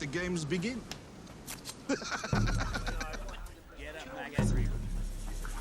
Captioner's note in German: Lacht